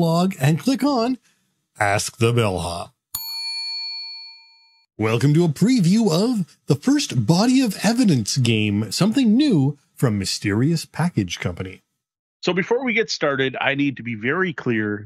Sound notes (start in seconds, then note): 3.1 bell dings